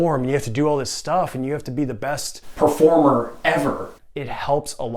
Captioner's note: audio echoing